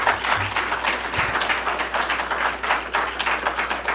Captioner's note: applause